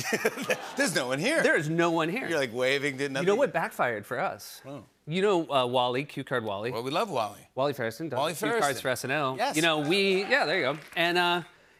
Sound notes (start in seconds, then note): 0.0 laughter; 9.6 cheers and applause